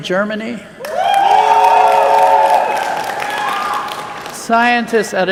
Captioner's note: cheers